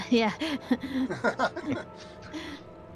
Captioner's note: laughing